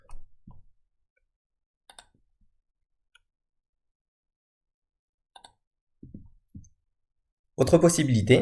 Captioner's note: click